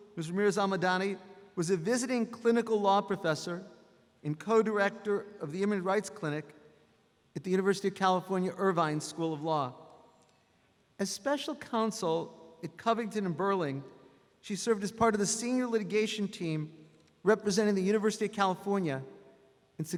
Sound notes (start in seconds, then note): none